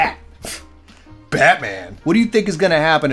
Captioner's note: scoff